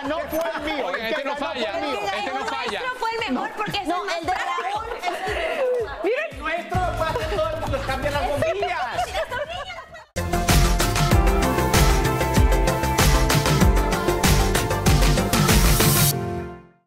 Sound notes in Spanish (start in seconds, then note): 7.0 risas